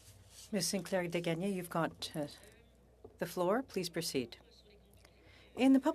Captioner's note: speaking French